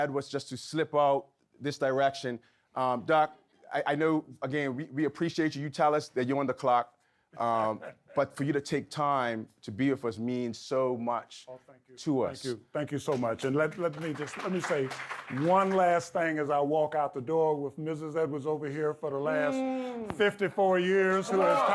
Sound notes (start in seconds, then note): 7.6 Harry laughs; 15.7 audience clapping